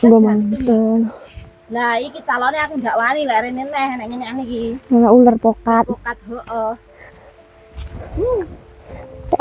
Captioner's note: chatting